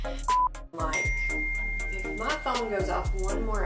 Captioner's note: phone chime